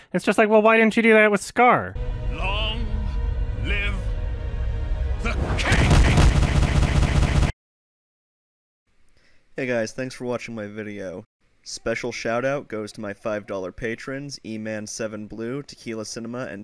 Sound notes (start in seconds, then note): 5.6 shitty smack sound effect; 6.0 shitty sound effect repeatedly plays